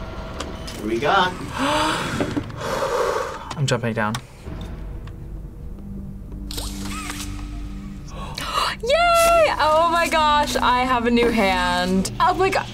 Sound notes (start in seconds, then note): 1.4 deep breaths; 8.0 gasps